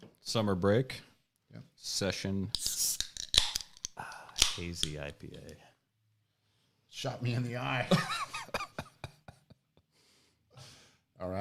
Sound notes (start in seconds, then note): 2.7 beer can sizzles and pops; 7.8 laughs